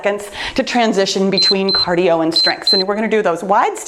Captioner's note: timer beeps